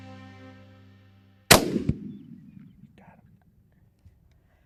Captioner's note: gunshot